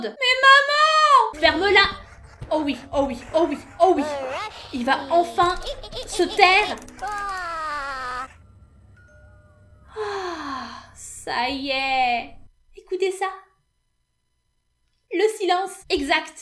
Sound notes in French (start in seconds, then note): 6.7 petit cri d'apaisement; 9.8 soupir d'apaisement